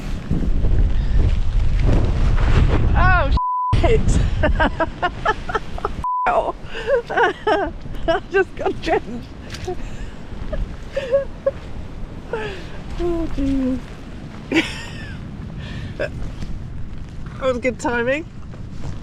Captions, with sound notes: *tarp flapping* oh **** *laughing* ******* hell I just got drenched oh jeez that was good timing